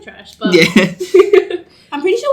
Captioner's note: laughs